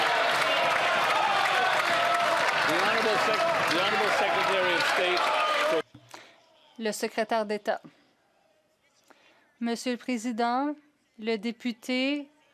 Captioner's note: some Applause